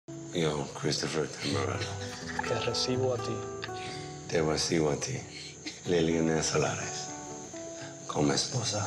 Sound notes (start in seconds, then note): 0.5 speaking in Spanish; 1.5 laughter